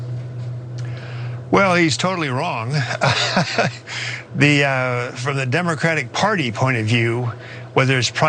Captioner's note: laugh